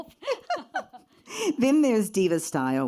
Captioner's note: laughs